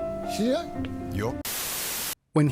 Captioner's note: TV Static